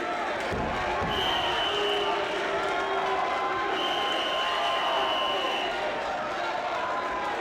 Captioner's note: crowd booing; whistle blowing